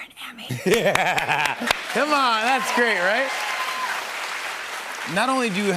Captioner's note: laughing